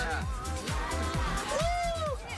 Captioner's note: whooping